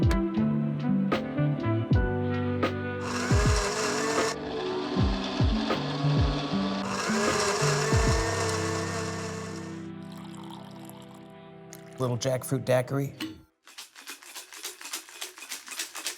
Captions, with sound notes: (blender humming) (liquid splashing) - Little jackfruit daiquiri.